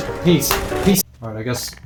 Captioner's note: explodes